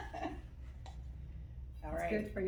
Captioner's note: laughter